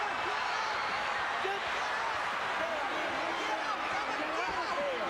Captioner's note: crowd chattering